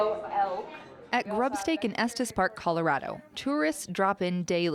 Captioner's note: voiceover